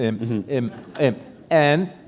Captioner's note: chuckle